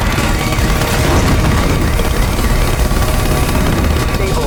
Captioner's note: rescue helicopter approaching